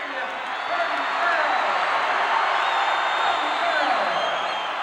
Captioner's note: crowd cheers